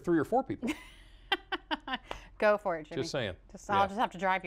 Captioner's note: laughter